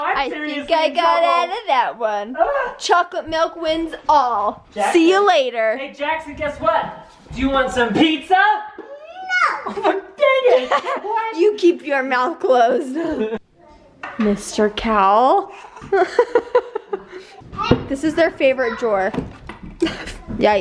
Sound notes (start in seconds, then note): 15.5 laughing